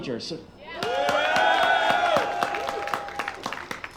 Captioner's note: applause